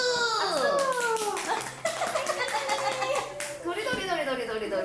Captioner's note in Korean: 박수 짝짝짝